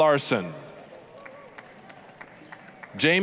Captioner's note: applause